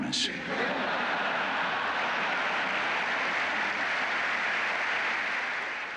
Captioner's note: laughter and applause